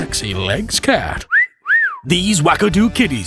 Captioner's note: whistle sound